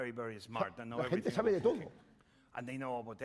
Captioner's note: speaking spanish